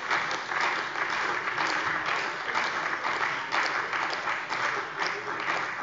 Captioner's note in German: Beifall bei der CDU und dem BÜNDNIS 90/DIE GRÜNEN